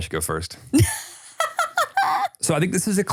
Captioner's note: laughs